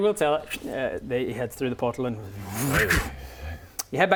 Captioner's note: vrrrrm